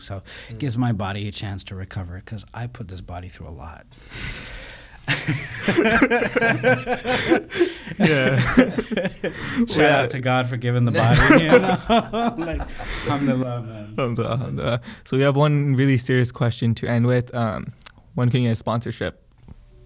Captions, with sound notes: So it gives my body a chance to recover 'cause I put this body through a lot. (laughing) - Shout out to God for giving the body. (laughing) - So we have one really serious question to end with. When can you get a sponsorship?